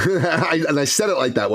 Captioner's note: laughs